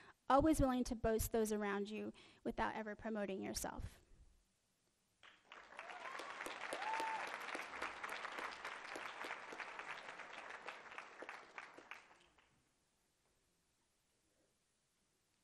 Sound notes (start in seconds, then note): 5.2 applause